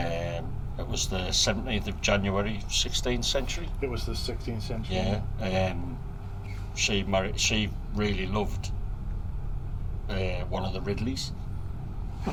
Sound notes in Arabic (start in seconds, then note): none